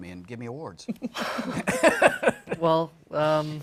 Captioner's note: laughter